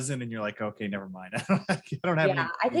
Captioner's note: laughs quickly